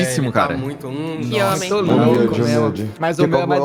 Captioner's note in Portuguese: hmm